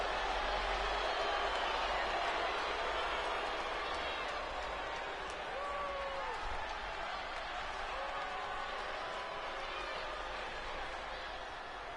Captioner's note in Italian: Applauso